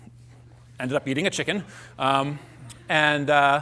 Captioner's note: laughter